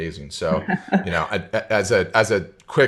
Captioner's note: laughs